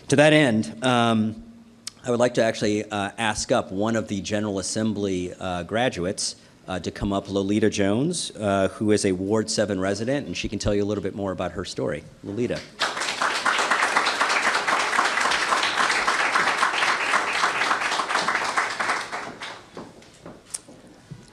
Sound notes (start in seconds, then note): 15.5 applause